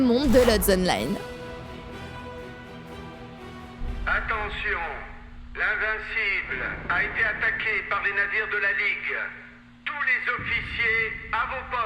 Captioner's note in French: ambiance sonore de vaisseau et doublages français dans des haut-parleurs